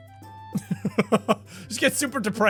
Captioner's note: cute laughter